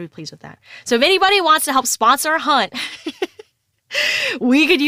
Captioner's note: laughs